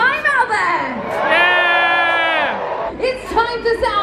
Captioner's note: crowd cheering